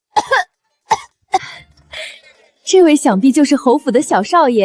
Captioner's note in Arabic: سعال، سعال، سعال